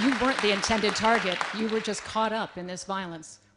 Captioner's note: applause